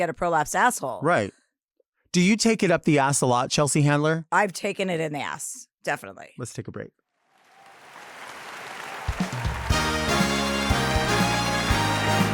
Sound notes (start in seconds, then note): 7.4 audience applauds; 9.4 dramatic music